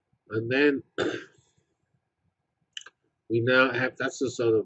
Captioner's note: cough